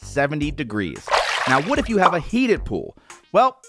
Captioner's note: splash